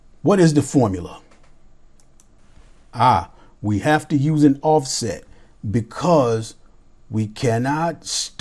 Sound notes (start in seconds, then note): 2.0 mouse clicks